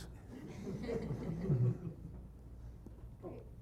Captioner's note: laughter